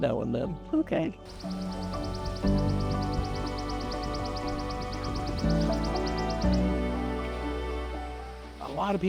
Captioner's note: birds calling